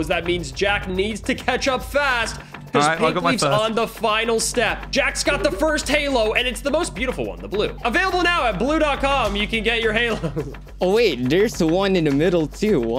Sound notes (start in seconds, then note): 10.0 laughs